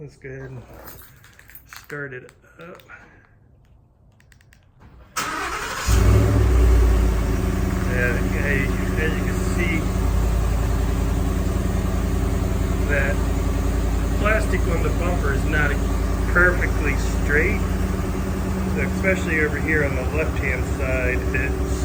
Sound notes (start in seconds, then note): 5.8 engine revving